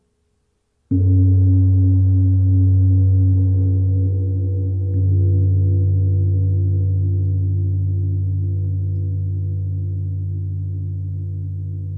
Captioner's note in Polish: gong